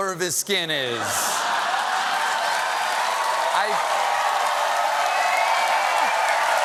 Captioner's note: cheers and applause; laughter